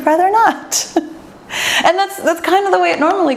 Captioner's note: laughs